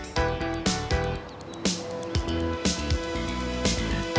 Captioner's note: motor whirring